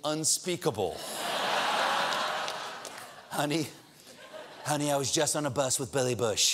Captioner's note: laughter